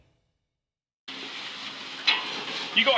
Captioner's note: sizzling